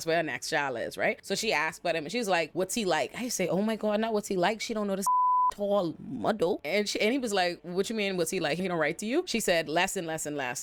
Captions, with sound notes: where her next child is, right? So she asked about him and she was like, what's he like? I say, oh my God, not what's he like? She don't know this (beep) tall muddle. And he was like, what you mean, what's he like? He don't write to you? She said less and less and less.